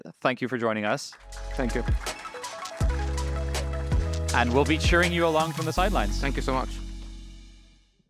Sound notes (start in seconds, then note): 0.9 audience clapping; 1.0 upbeat music